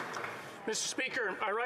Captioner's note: some Applause